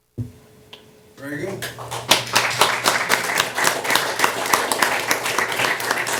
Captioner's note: applause